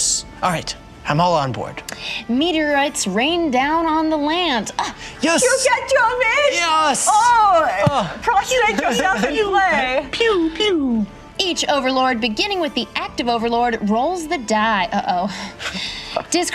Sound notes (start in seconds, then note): 5.9 imitates German accent